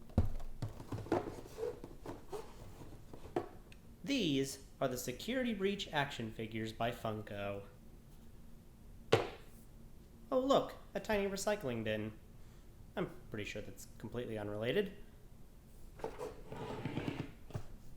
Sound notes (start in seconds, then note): 0.7 boxes set on the table; 9.1 thump